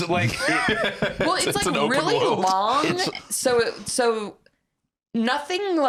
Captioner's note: laughs